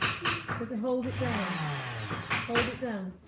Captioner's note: motor whirring